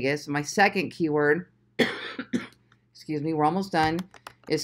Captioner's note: coughing